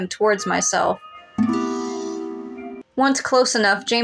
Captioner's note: romantic Music; inhale